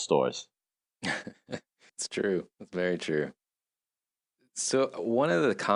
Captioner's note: chuckles